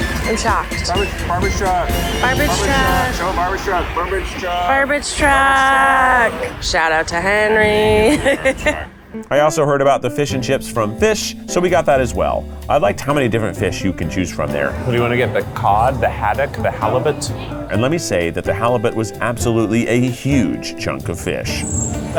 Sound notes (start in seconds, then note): 0.1 laughs; 5.7 truck engine revving; 7.8 laughs